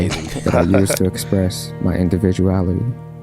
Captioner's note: laughing